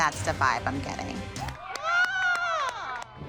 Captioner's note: moms whooping